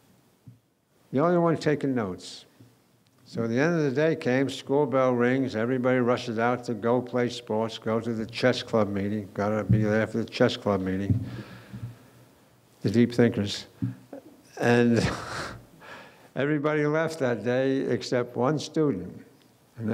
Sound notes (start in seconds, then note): 14.6 laughing